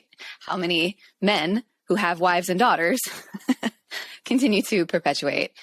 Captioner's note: chuckles